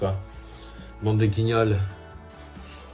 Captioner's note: french